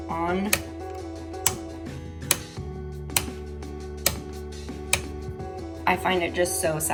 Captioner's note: click sounds